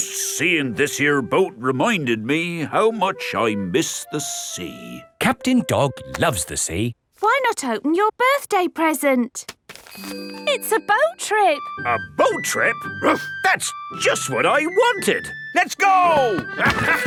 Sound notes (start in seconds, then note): 13.2 barks